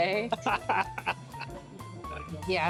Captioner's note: laughing